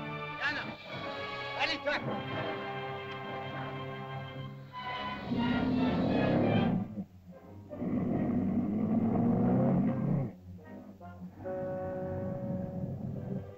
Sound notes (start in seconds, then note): 0.0 dramatic music; 0.2 Tumak speaks in caveman language; 3.5 dramatic music; 4.6 lizard growls; 5.3 dramatic music; 7.6 lizard growls; 10.4 ominous music; 13.3 tense music